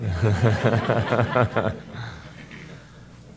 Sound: laughter

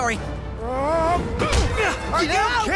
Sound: groaning

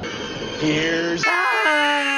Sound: screeching

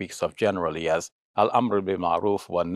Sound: speaks Arabic

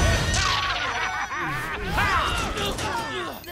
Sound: laughing; grunting

